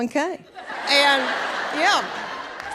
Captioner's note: audience laughs